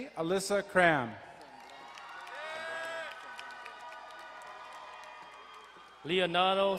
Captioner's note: crowd cheering and applauding